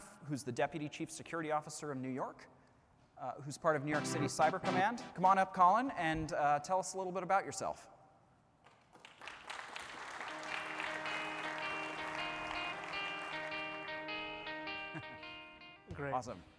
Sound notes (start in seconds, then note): 8.6 applause